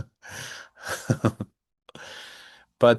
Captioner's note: laughs